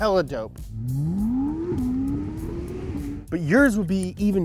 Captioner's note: engine revving